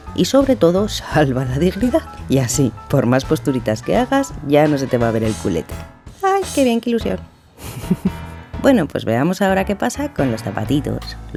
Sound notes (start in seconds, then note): 7.6 chuckle